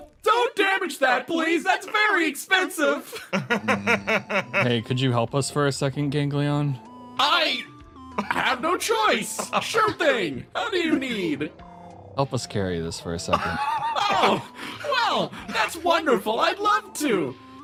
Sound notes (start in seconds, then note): 3.0 laugh